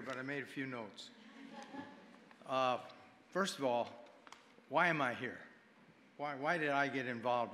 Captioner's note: audience chuckling